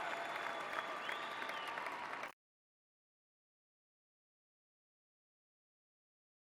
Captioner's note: applause